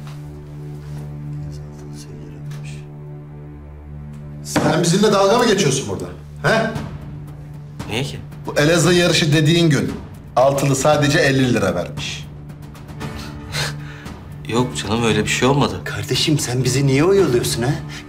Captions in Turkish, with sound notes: (Fısıldama sesi) Sen bizimle dalga mı geçiyorsun burada? Ha? Niye ki? Bu Elazığ yarışı dediğin gün... ...altılı sadece elli lira vermiş. Hah. Yok canım, öyle bir şey olmadı. Kardeşim, sen bizi niye oyalıyorsun ha?